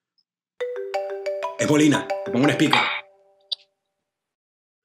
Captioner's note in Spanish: Suena el teléfono